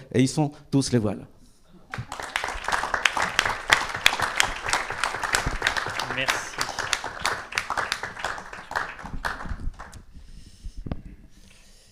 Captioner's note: applause